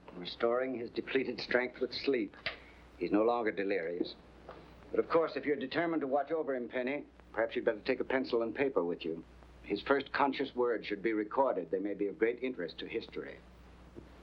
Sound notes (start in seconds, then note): none